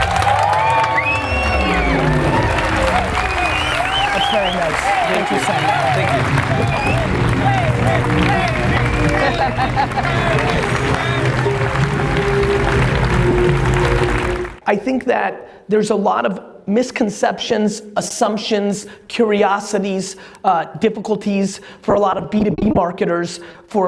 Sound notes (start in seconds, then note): 0.1 audience clapping and cheering; 6.6 crowd chanting Gary